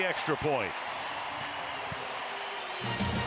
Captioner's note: crowd cheering